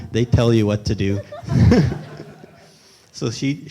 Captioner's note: laughs